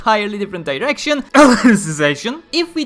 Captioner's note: cough